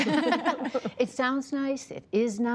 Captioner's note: laughter